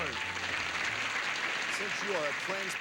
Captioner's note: audience applauding